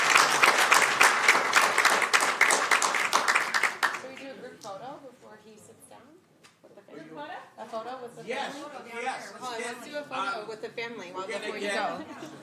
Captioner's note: applause